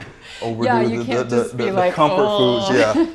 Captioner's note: moans